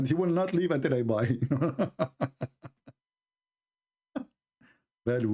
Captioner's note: Ketawa